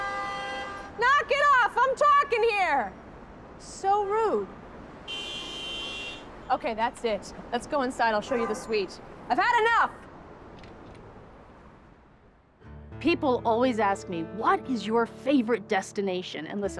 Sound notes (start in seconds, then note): 5.0 horns honk